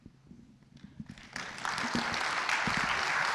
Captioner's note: applause